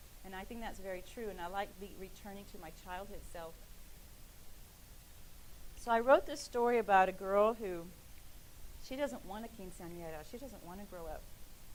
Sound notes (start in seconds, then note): none